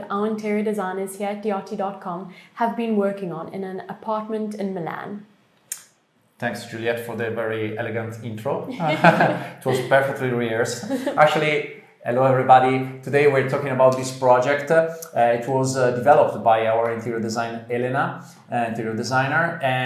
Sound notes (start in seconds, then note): 11.3 laughter